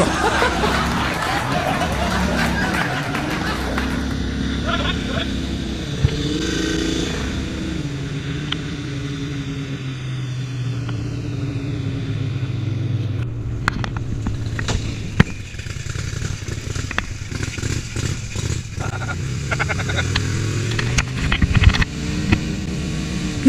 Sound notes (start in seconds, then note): 0.0 laghter Applause; 4.4 sound of outboard motor